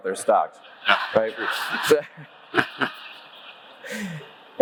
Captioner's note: audience laughs